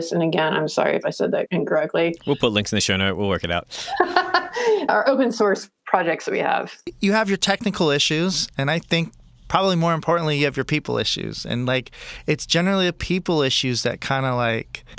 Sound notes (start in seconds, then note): 3.4 laughs